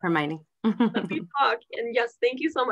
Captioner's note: laughter